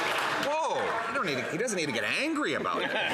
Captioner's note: some Applause